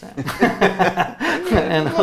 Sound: both laughing

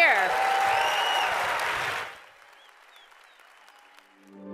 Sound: audience cheering

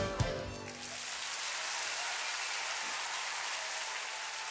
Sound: applause

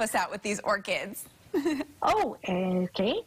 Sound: laughter

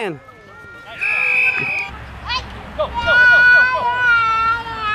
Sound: whistle blowing

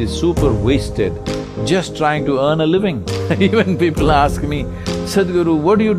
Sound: laughs

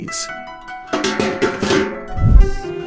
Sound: trash can noises

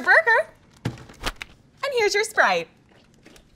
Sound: burger banging

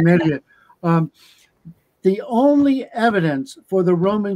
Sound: laughter

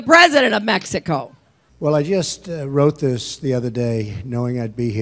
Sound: Donald Trump speaking

